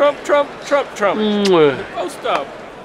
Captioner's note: kiss